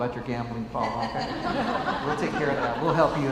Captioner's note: laughs